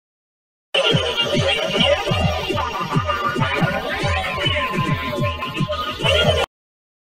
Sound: sound of a strange dream

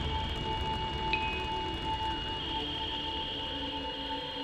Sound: satelite Beeping

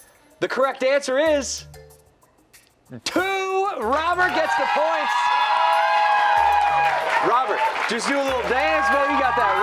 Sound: cheers and applause

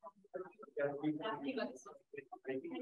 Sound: chatter

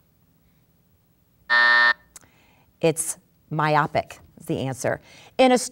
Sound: buzzing

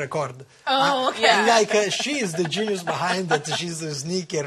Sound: laughter

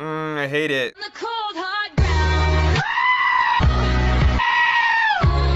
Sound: screaming

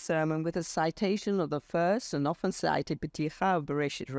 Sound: speaks foreign language

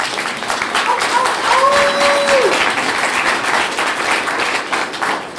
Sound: clapping

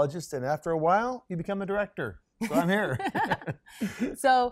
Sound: laughs

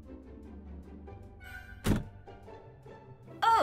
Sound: door closes

